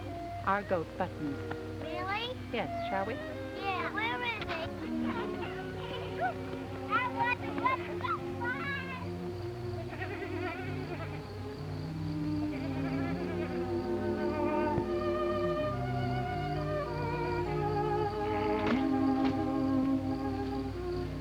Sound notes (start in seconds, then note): 9.8 goat bleating; 14.1 gentle music; 18.2 leaves ripping